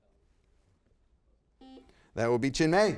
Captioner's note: buzzer beeps